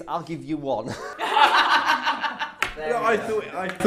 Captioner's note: laughing